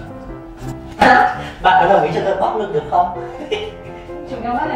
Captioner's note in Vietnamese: cười gian xảo